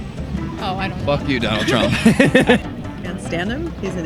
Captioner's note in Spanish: Todos ellos se ríen